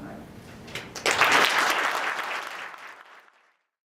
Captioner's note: applause